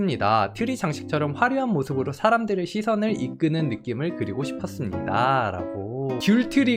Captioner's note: voiceover